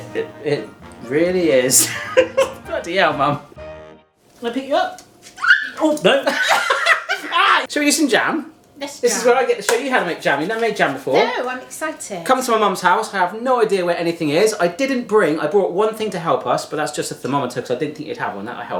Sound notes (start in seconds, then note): 1.8 chuckling; 5.3 dog squeals; 6.1 both laughing